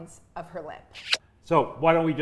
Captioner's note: lips smooching